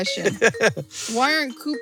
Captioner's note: chuckles